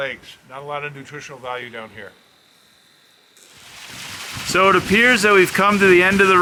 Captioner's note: water running